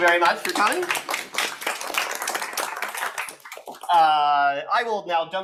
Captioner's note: audience applauding